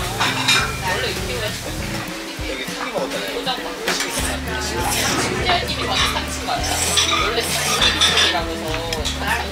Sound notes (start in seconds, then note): 4.0 slurp slurp